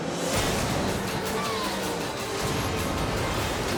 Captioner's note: edgy dramatic music; car exploding and skidding; edgy dramatic music